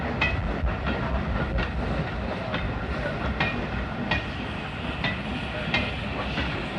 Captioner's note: train passes